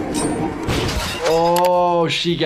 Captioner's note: intense instrumental music; device crashes